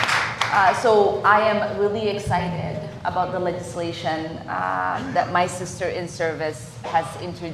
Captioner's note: applause